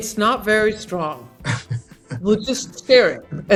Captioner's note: Oscar laughing